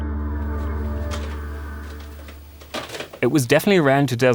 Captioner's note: VHS tapes clattering